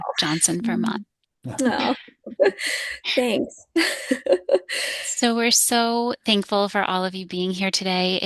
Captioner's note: laughing